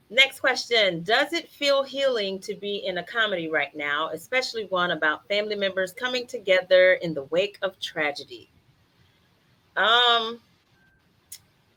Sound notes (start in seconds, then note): none